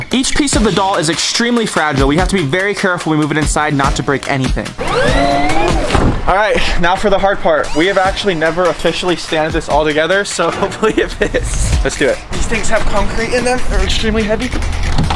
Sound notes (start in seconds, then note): 4.8 van door whirring; 10.4 chuckles